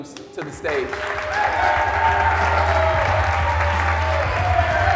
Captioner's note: audience cheering